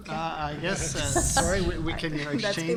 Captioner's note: group laughter